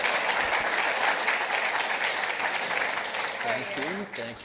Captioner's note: participants applauding